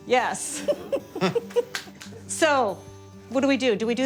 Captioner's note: laughs